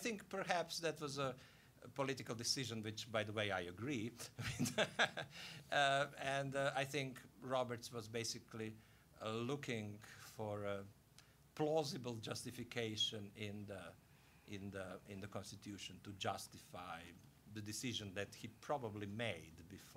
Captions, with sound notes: I THINK, PERHAPS, THAT WAS A POLITICAL DECISION-- WHICH, BY THE WAY, I AGREE-- (laughing) UH, AND I THINK ROBERTS WAS BASICALLY LOOKING FOR A PLAUSIBLE JUSTIFICATION IN THE CONSTITUTION TO JUSTIFY THE DECISION THAT HE PROBABLY MADE